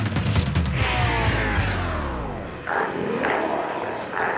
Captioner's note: energetic music continues; reel whirs; glowzies growling